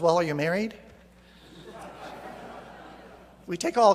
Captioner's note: laughter